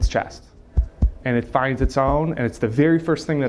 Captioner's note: chest thumping